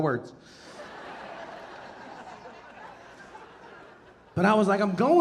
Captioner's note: audience laughing